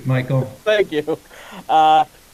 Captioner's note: chuckles